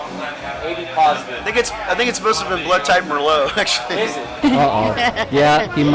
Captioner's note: laughs